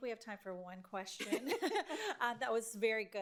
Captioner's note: laughing